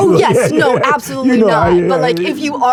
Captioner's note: laughs